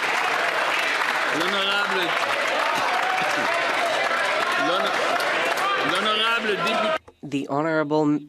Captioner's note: applause